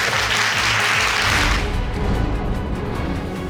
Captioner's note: audience applauding